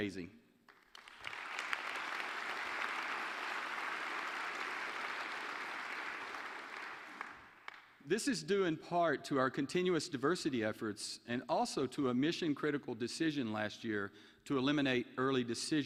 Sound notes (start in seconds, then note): 4.6 applause